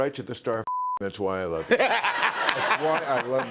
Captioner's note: laughter